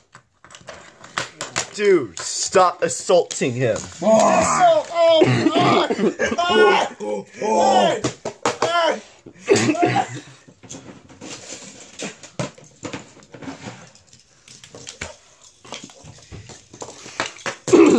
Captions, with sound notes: Dude, stop assaulting him! (Minion screaming) (Screaming)